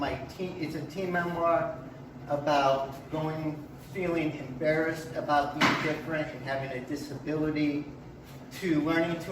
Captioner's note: slamming sound in background